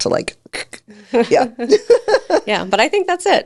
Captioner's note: both laughing